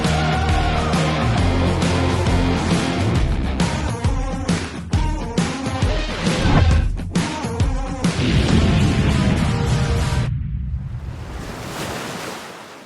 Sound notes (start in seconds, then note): 8.5 explosions; 10.9 water rushing